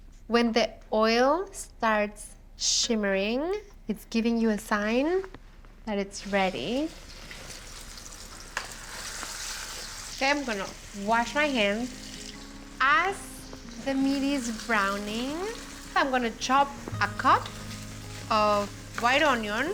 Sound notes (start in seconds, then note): 7.0 sizzling